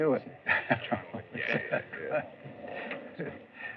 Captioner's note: chuckles